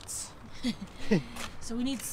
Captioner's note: both chuckles